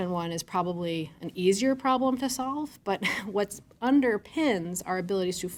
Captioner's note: chuckles